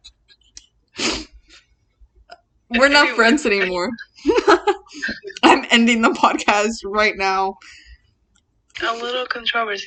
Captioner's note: sniffs